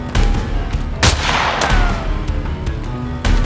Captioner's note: gun fires; guns fires